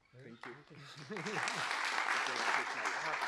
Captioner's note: clapping